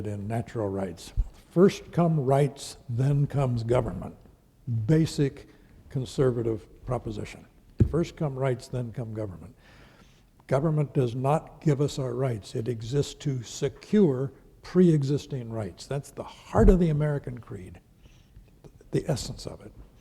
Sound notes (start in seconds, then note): none